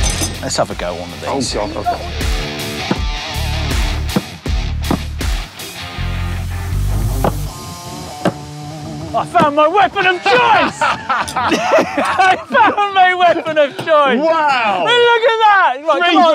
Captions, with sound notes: Let's have a go at one of these. Oh god, okay. (music fades) I've found my weapon of choice! (laugh uproariously) I've found my weapon of choice! Wow! Will you look at that?